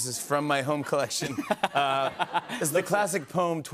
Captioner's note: laughter